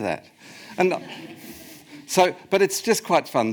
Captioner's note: audience laughs